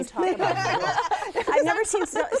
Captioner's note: laughter